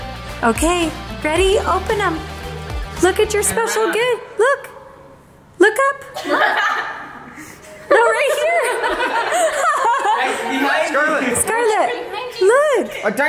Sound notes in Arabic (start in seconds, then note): 9.6 الكل يضحك